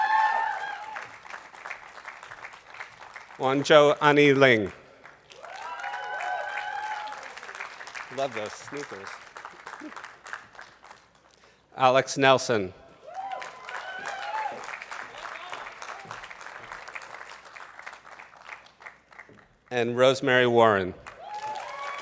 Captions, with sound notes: (attendees applauding) Huancho Annie Ling. (attendees applauding) I love those sneakers. Alex Nelson. (attendees applauding) And Rosemary Warren.